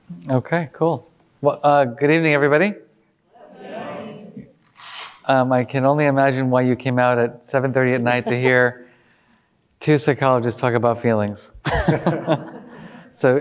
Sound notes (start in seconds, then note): 3.4 audience speaking indistinctly; 11.6 all laughing